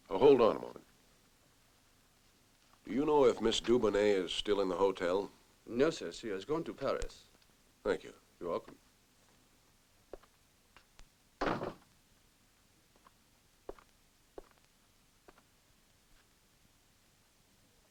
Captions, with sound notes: Oh, hold on a moment. Do you know if Ms. Dubonet is still in the hotel? No, sir. She has gone to Paris. Thank you. You're welcome. [DOOR CLOSES]